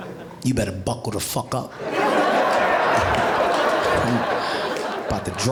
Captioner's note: audience laughing